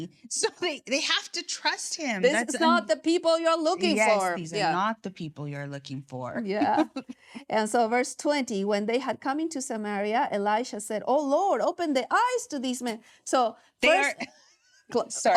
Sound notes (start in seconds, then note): 6.4 chuckling